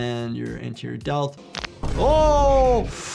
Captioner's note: intense boom swells